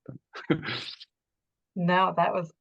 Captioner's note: laughs